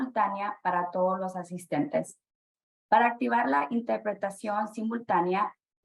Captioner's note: speaking spanish